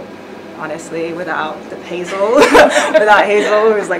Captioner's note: laughing